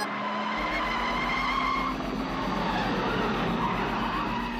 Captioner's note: tyres Screeching